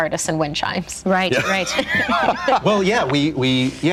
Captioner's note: laugher